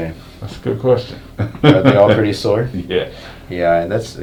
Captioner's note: chuckles